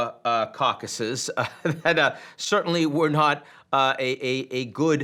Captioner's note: laughs